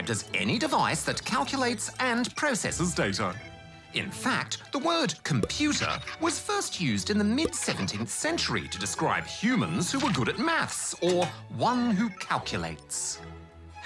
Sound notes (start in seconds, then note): none